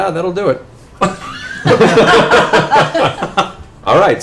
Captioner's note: laughter